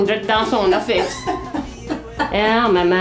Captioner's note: laughs